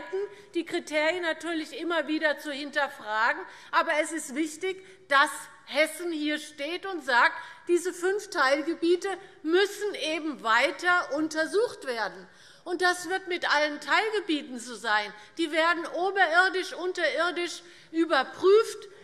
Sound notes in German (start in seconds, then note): none